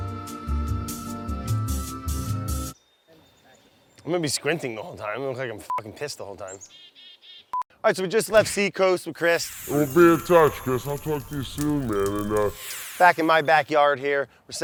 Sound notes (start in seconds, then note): 0.1 light music; 6.5 chickadee calls; 9.8 echoing